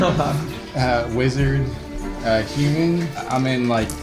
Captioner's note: laughs